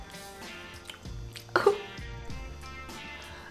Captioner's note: coughs; gentle music